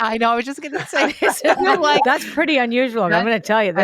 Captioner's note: laughs